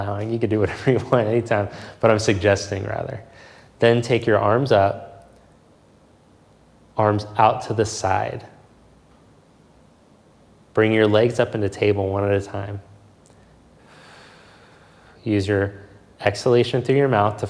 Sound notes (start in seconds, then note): 13.8 exhales softly